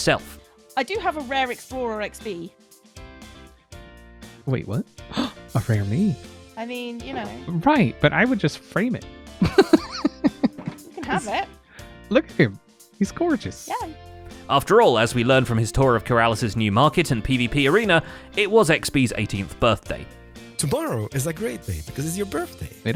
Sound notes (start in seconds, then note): 5.1 gasps; 9.4 laughs